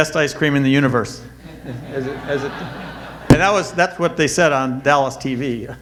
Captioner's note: audience laughter